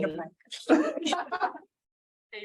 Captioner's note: chuckling